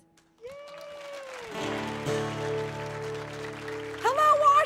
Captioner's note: audience clapping